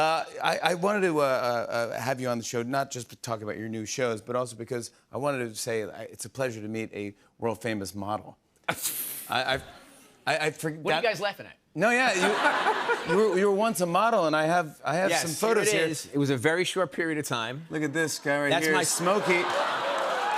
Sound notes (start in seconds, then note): 8.6 chuckles